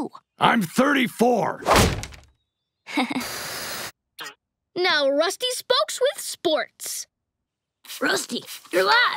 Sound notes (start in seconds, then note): 2.9 chuckles